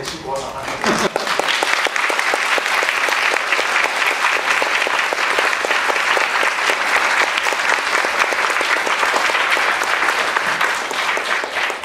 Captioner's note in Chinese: 掌聲